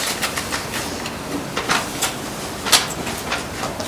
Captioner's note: papers shuffling